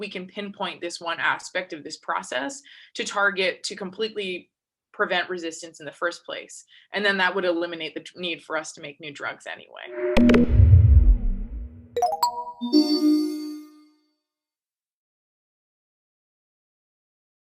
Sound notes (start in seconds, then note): 9.9 electronic sound effects